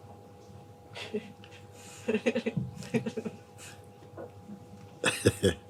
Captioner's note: laughter; laughs